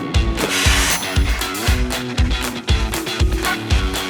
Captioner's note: water splashing; upbeat music